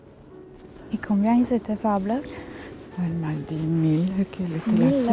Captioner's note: foreign language